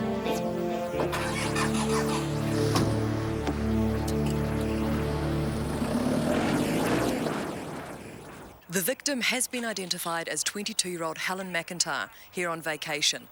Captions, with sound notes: (engine revving) - The victim has been identified as 22 year old Helen McIntyre, here on vacation.